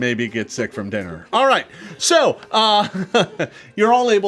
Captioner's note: laughs